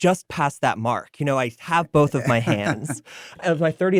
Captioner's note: laughs